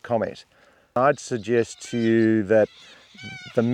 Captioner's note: bird sounds